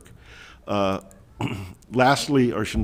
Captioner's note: clearing throat